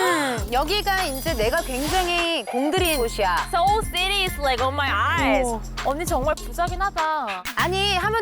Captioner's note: envious tone